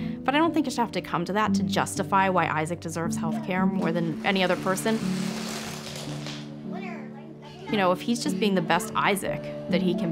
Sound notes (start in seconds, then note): 5.4 toy rattling